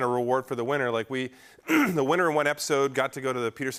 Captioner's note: clears throat